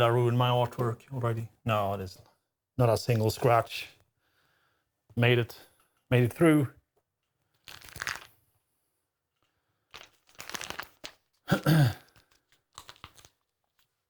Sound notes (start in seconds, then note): 7.4 plastic Crinkling; 11.4 clears Throat